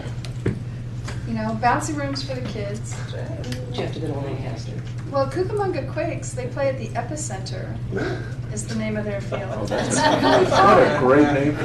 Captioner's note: laughter